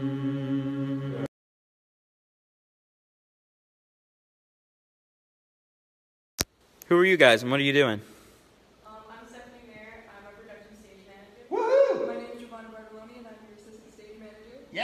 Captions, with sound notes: Who are you guys and what are you doing? I'm Stephanie Mayer. I'm production stage manager. (man cheering) My Name's Javon Baralomi and I'm your assistant stage manager.